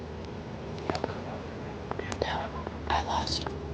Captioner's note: whispering